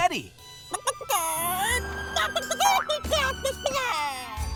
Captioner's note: clucking